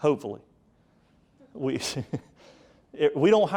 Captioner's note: speaker chuckling